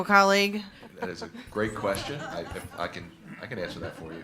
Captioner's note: attendees laughing